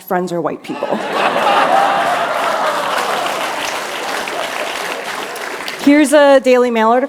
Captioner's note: laughter